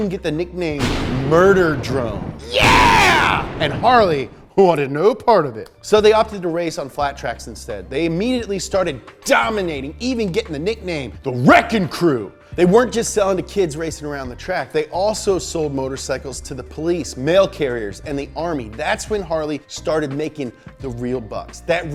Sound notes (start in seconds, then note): 0.8 lightning booming